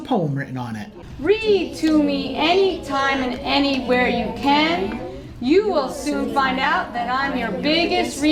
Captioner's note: voices Reading Poem